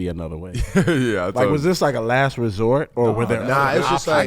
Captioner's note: laughing